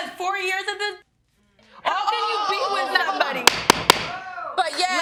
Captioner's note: gavel pounding